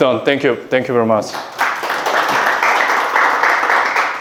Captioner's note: clapping